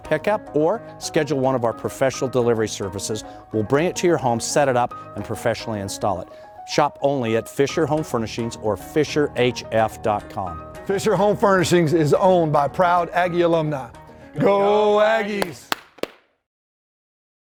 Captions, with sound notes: pick up or schedule one of our professional delivery services. We'll bring it to your home, set it up, and professionally install it. Shop only at Fisher Home Furnishings or FisherHF.com. Fisher Home Furnishings is owned by proud Aggie alumni. Go Aggies. [CLAPPING]